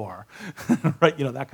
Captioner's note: laughs